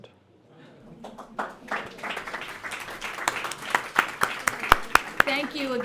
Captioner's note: applause